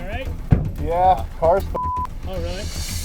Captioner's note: beep